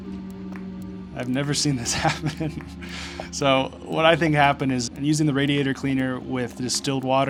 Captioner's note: laughing